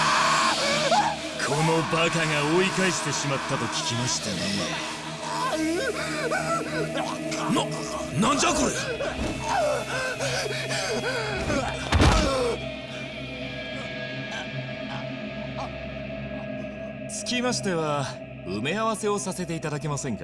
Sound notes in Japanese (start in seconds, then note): 0.1 叫び声; 6.0 叫び声; 11.9 うめき声